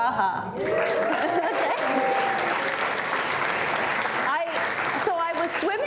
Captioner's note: cheers, applause